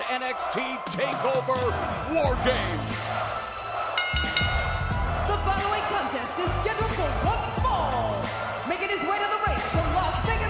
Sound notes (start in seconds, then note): 3.9 bell ringing